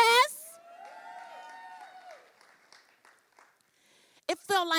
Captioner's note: cheering